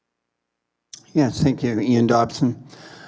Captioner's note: voiceover